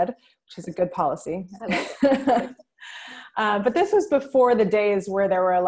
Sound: laughs

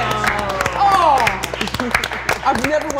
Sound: applause

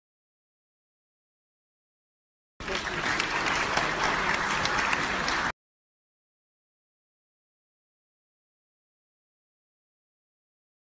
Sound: clapping

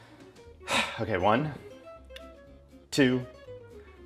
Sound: sighs

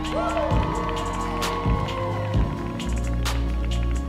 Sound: audience cheering

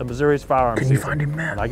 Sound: whispering

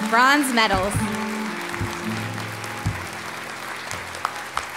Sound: applause

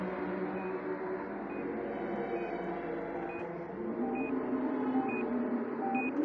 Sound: heart monitor beeping

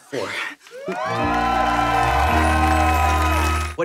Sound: audience cheering

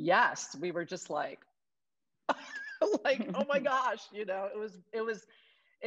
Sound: laughs

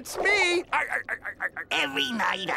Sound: laughing

